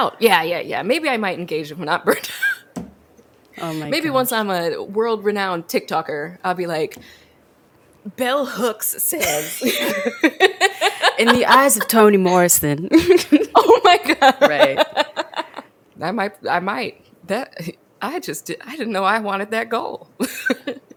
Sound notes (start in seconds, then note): 2.2 laughs; 9.2 both laugh; 13.0 laughs; 20.2 laughs